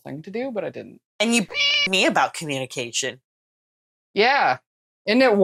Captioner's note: meow